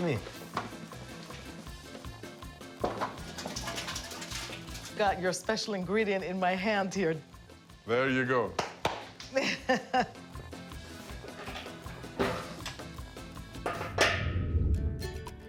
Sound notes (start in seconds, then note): 0.0 speaking in Greek; 9.2 laughs